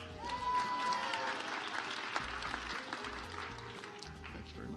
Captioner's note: audience applauds